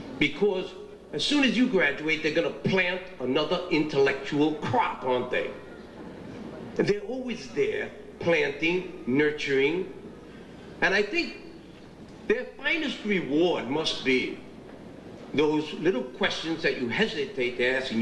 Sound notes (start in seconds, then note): none